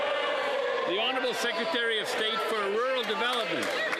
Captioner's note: some Applause